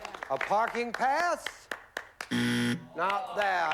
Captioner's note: buzzer